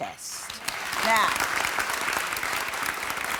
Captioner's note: clapping